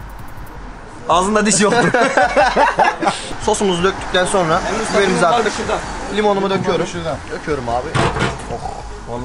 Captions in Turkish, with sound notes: Ağzında diş yoktu! (Hahahah!) +Sosumuzu döktünden sonra biberimizi de attık. Limon da döküyorum, ohh!